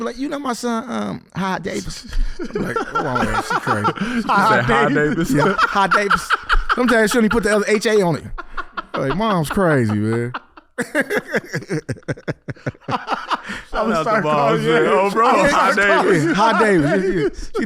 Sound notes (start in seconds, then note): 5.3 laughing; 11.6 laughing